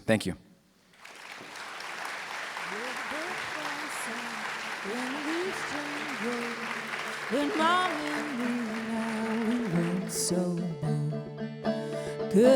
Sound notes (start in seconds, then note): 0.9 applause; 5.7 closing music